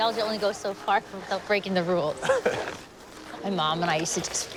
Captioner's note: Nicolas chuckles